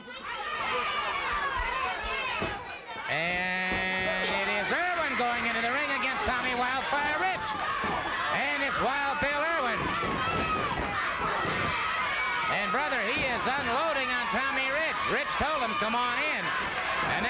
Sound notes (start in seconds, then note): 10.2 crowd yelling